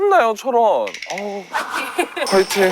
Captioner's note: calmly